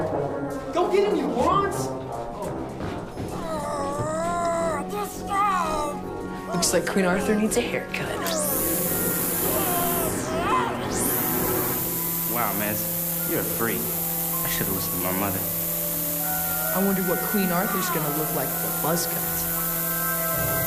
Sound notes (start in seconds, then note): 3.3 groaning; 7.9 weed whacker whirring